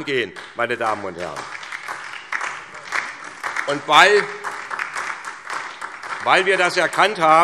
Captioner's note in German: Beifall SPD und DIE LINKE